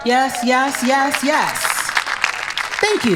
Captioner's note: audience claps